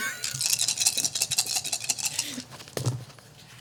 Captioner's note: dice rolling